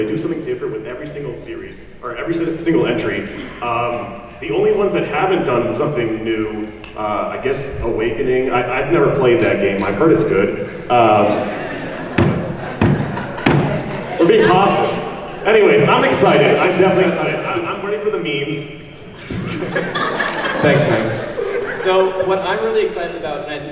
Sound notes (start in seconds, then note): 12.0 laughing and banging table; 19.1 laughing